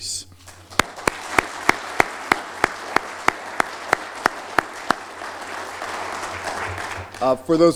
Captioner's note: applause